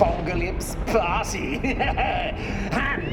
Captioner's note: laughs